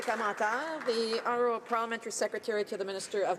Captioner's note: applause